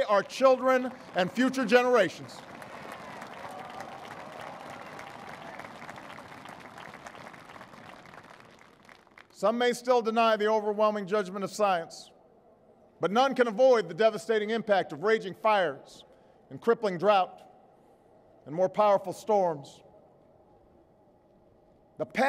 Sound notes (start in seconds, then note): 5.9 applause